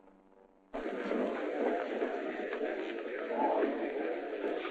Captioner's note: chatter